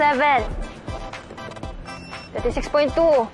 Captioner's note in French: scanner beeps